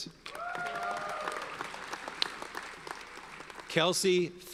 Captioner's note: audience cheers and applauds